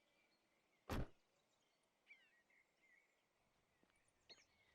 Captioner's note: birds chirping; car door slams shut; birds chirping